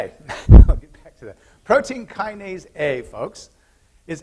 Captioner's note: laughter